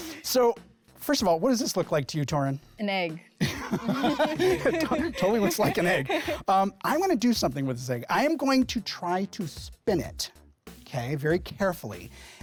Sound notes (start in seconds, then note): 3.4 laughs